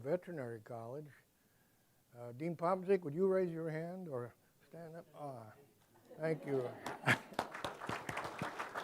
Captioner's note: applause